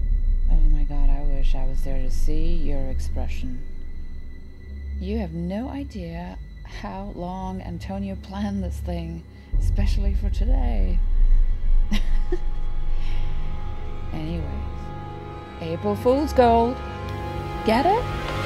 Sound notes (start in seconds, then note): 11.9 chuckle's